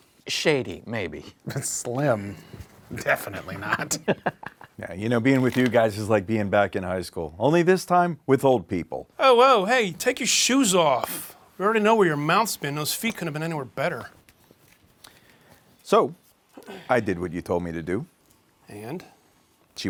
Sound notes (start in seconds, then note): 3.4 Marty chuckles